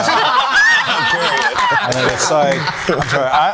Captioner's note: group laughing